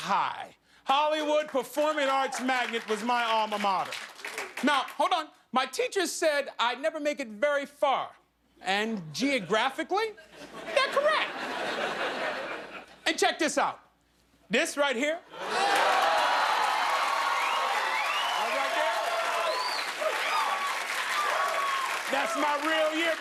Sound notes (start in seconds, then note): 11.8 laughter; 15.4 cheers and applause